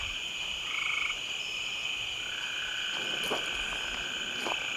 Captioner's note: insects chirping